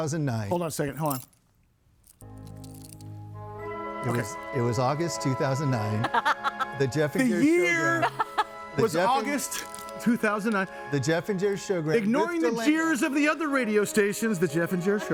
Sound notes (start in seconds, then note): 2.6 dramatic music; 6.0 laughing